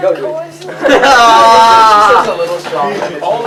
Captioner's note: laughter